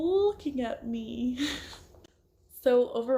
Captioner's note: laughs